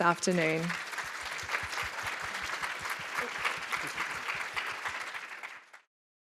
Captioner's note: applause